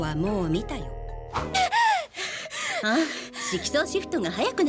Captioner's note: panting; gasps